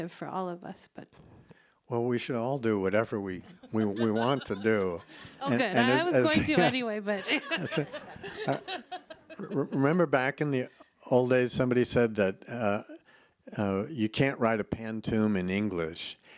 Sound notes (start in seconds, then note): 3.4 laughs; 6.3 chuckles; 8.8 laughs